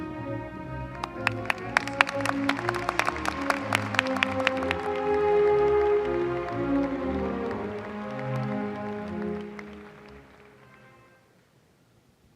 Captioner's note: applause